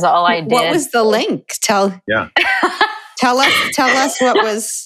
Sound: chuckle

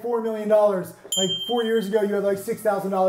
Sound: audio beeps

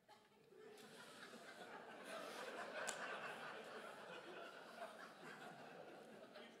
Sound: crowd laughs

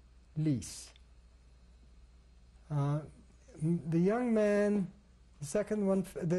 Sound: pauses for 3 seconds

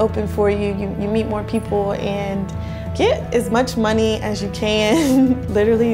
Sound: laughs

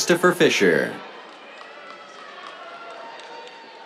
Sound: cheers, applause

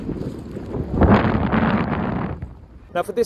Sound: wind blowing

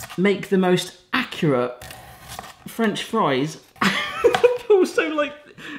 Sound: laughing

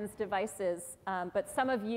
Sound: none

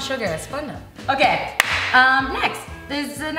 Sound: claps

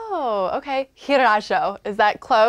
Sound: speaking Sangheili

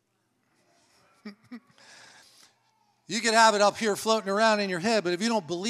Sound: chuckles

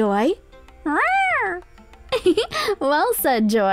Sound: cat meowing; laughing

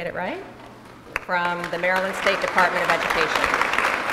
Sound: applause

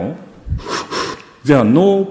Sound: sucks air in noisily

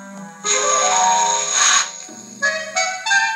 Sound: sizzle

